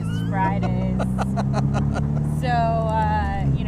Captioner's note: laughing